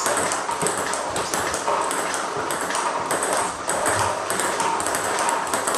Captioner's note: ball ping pong hitting continues